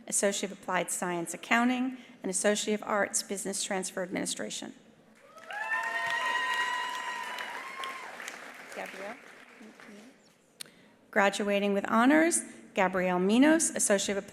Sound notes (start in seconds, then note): 5.2 attendees applauding; 5.2 attendees cheering